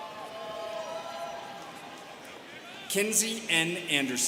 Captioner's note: students cheering